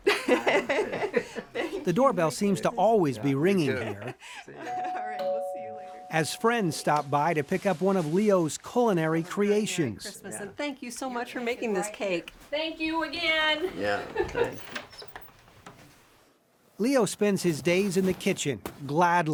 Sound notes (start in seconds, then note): 0.0 laughing; 4.7 doorbell ringing